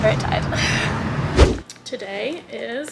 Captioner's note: whooshing sound